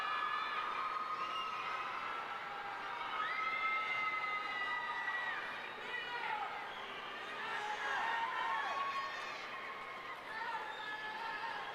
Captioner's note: cheering